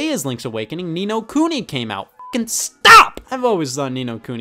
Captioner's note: beep